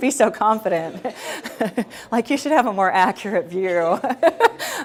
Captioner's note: chuckling